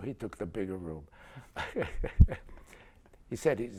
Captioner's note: laughter